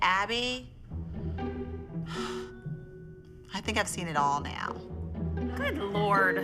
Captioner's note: sighs